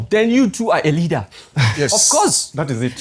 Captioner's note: laughs